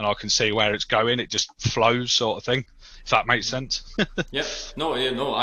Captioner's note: laughs